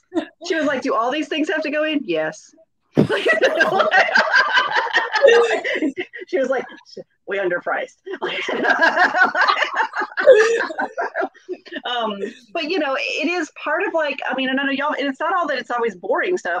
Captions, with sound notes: She was like, "Do all these things have to go in?" Yes. (all laugh) She was like, "We're underpriced." (laughs) But you know, it is part of like, I mean, and I know you all, and it's not all that, it's always boring stuff.